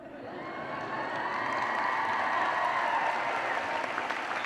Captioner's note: cheers and applause